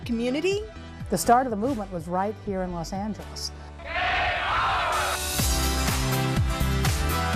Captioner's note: chanting